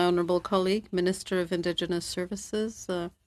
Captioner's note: speaking French